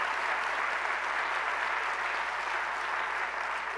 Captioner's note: cheers and applause